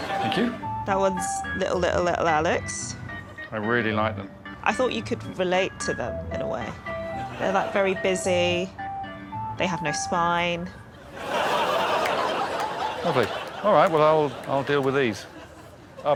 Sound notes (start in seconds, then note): 11.0 laughter